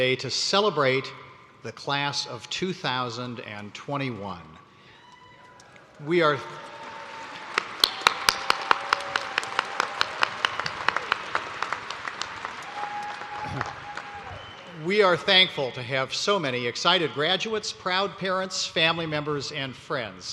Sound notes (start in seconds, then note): 8.7 cheers and applause